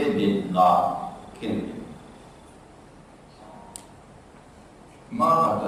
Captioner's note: Berbahasa Arab